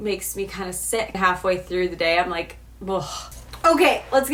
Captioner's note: sighs